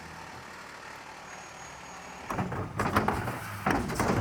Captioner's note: engine rumbling